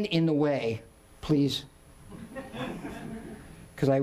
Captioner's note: audience laughing